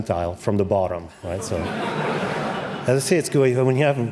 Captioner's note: laughter